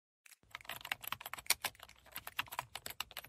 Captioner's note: keyboard typing